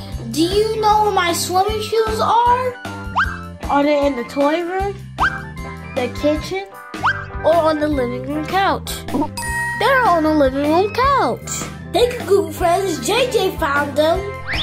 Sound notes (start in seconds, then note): 9.3 ding sound effect